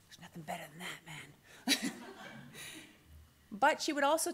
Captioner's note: laughter